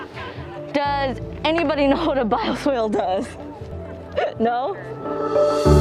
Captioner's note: laughs